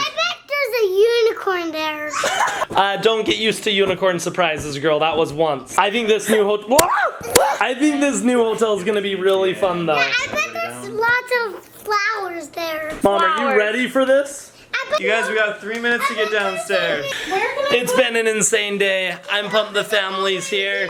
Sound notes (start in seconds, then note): 2.1 laughter; 7.2 laughs; 7.3 squawking